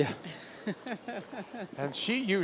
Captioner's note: laughs